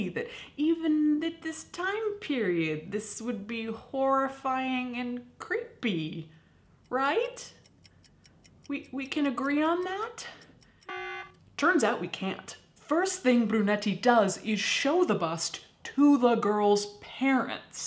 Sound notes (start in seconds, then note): 10.8 buzzer sounds